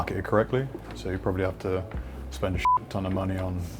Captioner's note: beep